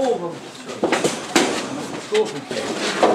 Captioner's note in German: Rumpeln, Gesprächsfetzen